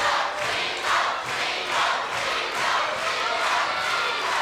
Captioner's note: crowd cheering